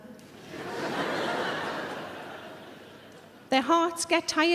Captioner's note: audience laughing